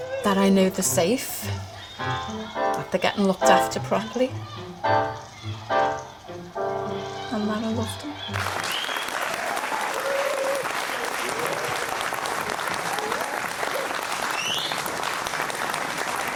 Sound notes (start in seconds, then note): 8.1 round of applause; 16.1 cheering and whistling